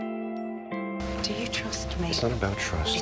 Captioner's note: voiceover